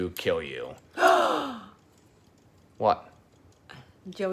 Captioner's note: gasps